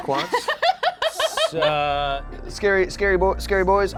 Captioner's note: laughing